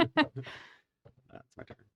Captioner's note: laughter